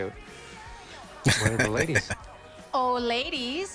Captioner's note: laughing